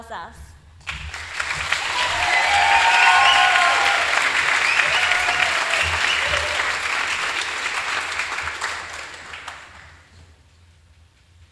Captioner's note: applause